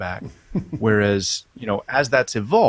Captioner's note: man chuckles